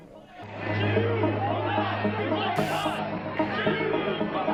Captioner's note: crowd